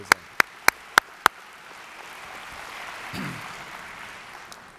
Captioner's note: audience applauds